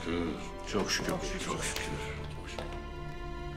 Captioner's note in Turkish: Hep bir ağızdan